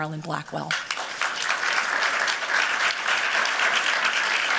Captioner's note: applause